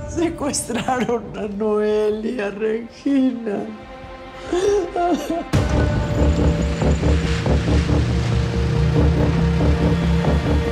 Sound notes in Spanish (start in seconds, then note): 4.3 Sollozos